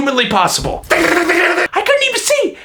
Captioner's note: shooting sounds